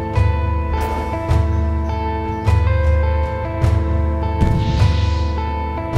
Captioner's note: birds chirping; air whooshing; air whooshes